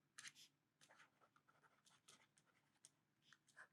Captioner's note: pen scratches